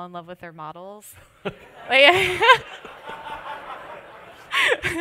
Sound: laughter

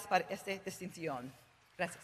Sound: Spanish spoken

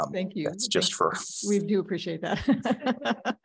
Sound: laughs

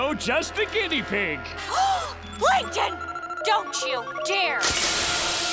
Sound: gasping

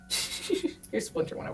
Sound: laughs

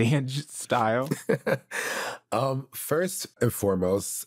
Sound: chuckles

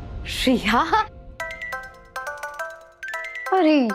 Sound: mobile ringing

